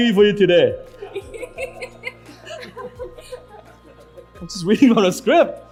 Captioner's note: audience laughs